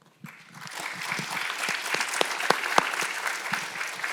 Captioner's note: audience applauds